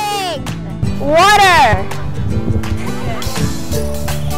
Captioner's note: laughing